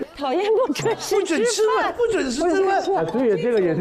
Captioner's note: strong crowd onlooking